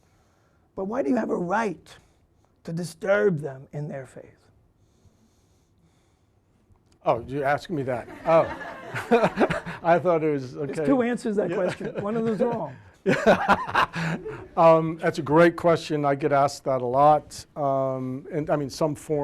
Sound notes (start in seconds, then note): 13.7 laughing